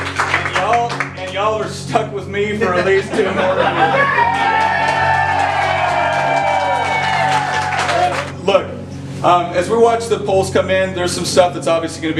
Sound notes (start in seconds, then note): 3.6 cheering